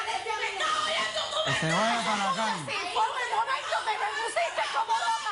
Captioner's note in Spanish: Gritería